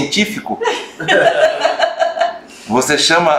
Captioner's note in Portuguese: risos